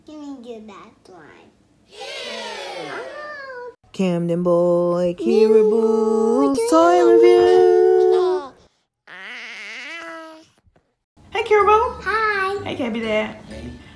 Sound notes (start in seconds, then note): 9.0 baby voice